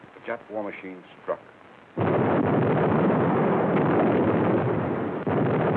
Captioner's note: explosions